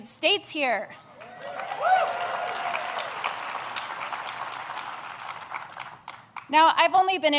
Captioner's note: applause